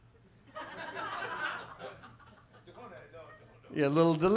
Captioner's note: audience laughs